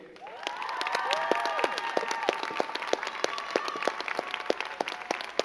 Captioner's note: crowd cheering and clapping